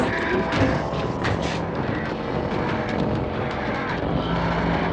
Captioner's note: ghouls groaning